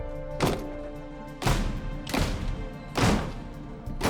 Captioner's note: doors slamming